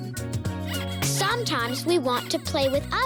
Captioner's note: squeaking